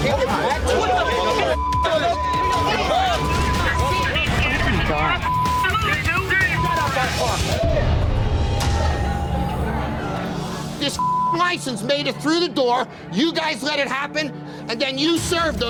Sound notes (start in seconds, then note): 0.2 men screaming; 5.7 men screaming; 10.9 beep